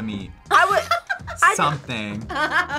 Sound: React laughs

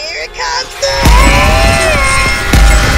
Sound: everyone screaming

